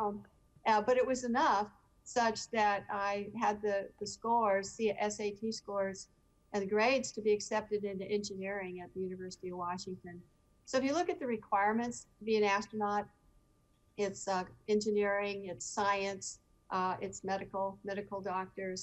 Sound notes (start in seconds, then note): none